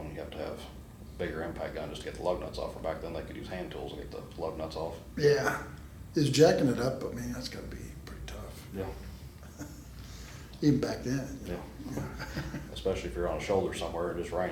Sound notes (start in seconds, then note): 11.7 laughs